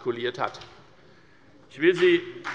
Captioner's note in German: Beifall bei der FDP